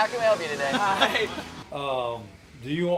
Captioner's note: laughing